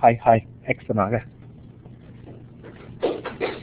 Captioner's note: speaks in Native language; round of Applause